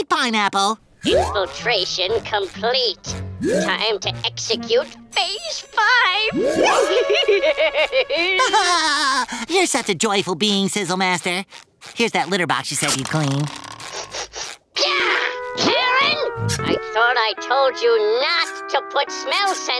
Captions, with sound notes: Infiltration complete. Time to execute phase five! [laughing] [laughing] You're such a joyful being, SizzleMaster. Here's that litter box you said you'd clean. [sniffing] Gah! Karen! I thought I told you not to put smell sensors